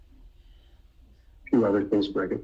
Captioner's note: murmurs